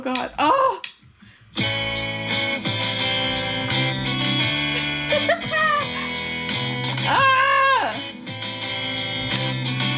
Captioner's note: laughs